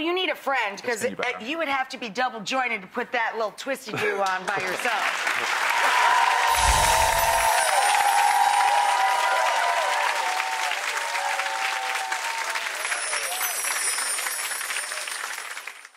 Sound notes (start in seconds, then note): 4.9 audience applauding; 6.4 chimes chiming; 12.6 chimes chiming